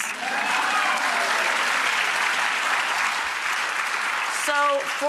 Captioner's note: audience cheers and applauds